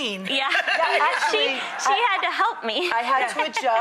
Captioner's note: laughing; laughs